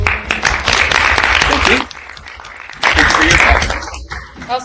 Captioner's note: applause